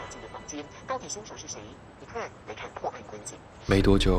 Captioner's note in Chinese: 電視嘈雜聲